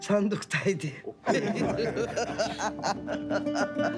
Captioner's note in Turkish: Gülüyorlar